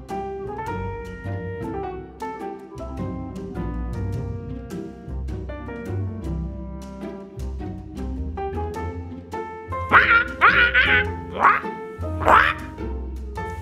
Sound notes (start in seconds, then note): 0.1 bright gentle music; 9.9 bird squawking